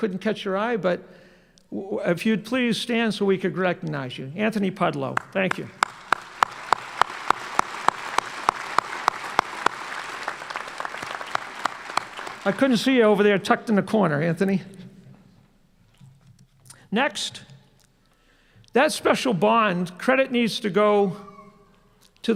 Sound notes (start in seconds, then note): 10.6 applause